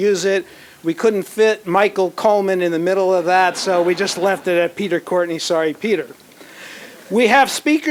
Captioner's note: laughter